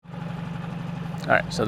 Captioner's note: boat whirring